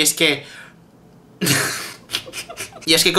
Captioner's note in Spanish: Risas